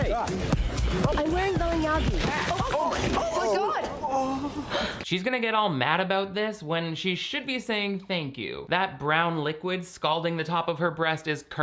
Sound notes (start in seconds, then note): 4.4 gasping